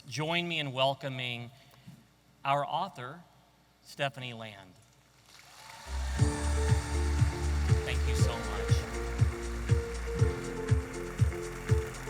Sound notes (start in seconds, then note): 5.3 audience applauding; 9.1 energetic music